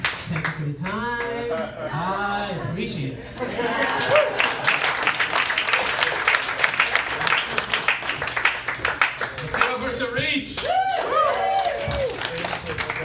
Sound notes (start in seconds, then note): 3.4 claps; 10.6 woooh